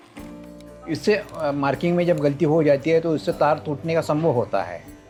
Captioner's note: speaking foreign language